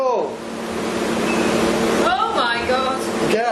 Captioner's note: device beeps